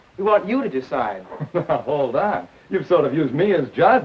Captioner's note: chuckles